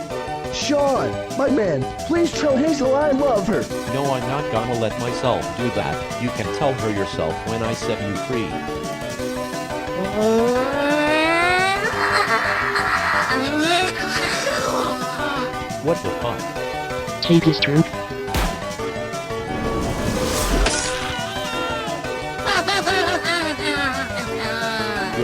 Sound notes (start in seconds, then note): 10.2 Noo-Loo Yelling; 18.3 gun Shot; 18.3 blade Slice; 22.4 Noo-Loo Laughing evily